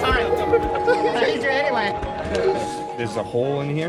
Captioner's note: laughing; speaking foreign language